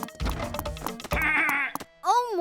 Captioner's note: angry grumbling